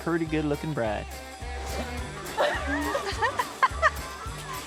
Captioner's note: everyone chuckles